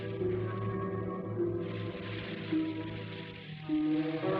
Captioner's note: fuse sizzling